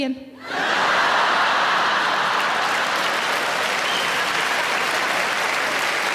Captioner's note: audience laughing and applauding